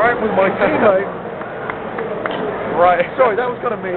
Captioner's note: clapping